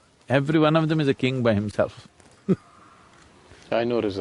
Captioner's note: laughs